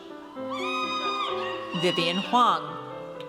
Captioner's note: audience cheers